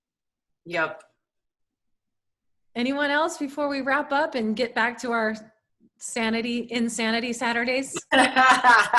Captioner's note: laughter